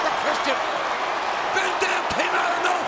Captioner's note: crowd cheering